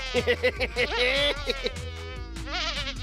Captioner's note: laughs